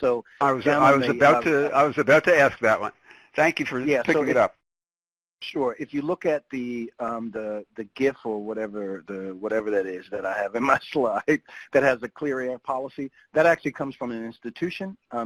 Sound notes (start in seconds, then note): 11.2 laughs